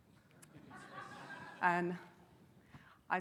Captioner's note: audience laughing